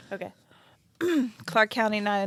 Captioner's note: clears throat